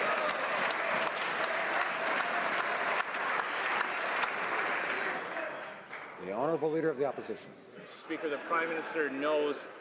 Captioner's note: some Applause